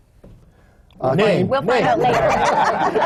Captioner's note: laughter